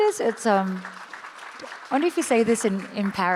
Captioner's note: audience applauds